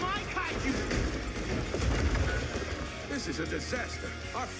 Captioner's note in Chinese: 摔倒声